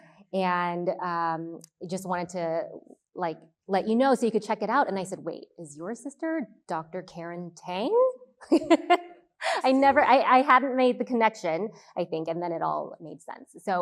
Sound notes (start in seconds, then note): 9.0 laughs